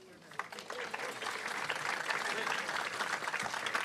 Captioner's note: audience applauds